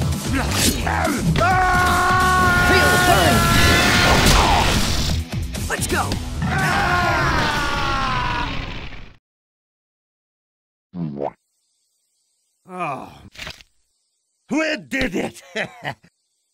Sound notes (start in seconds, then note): 1.4 screech!; 6.4 roar!